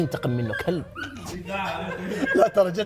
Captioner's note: laughing